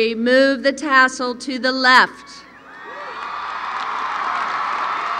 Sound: applause

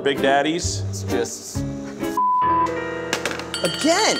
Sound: beep

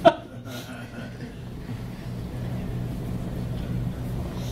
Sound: audience laughing

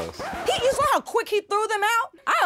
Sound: record scratches

